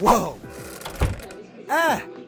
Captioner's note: door shutting